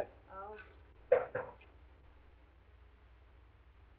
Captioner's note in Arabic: طرق على الباب